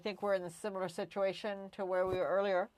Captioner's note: speaking french